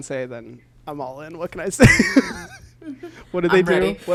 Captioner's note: laughs